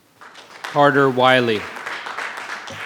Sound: audience applause

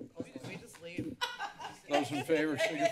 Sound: laughter

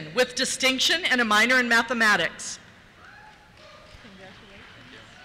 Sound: cheers

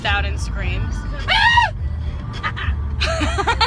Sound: screams; laughter

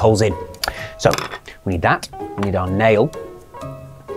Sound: stick clatters

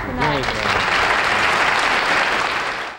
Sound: audience applauding

